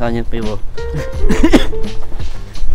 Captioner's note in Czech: kašlání